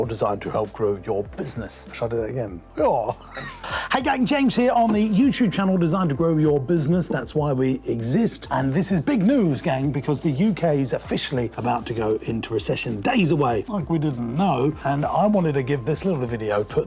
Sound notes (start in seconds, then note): 3.1 laughs